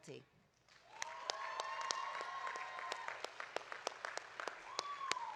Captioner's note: audience cheering